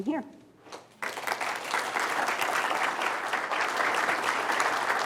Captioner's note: applause